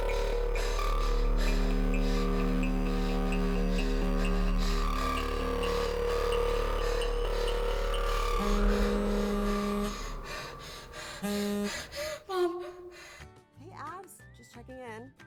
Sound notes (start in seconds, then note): 0.3 Abby pants; 4.2 urgent music; 9.1 phone buzzes; 10.6 Abby pants; 13.1 cheerful music